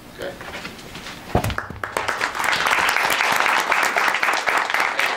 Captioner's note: audience claps